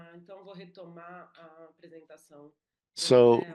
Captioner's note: speaks in Portuguese